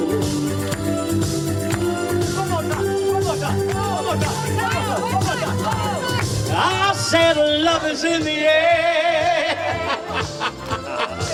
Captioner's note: ha ha